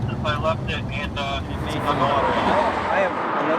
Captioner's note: highway noise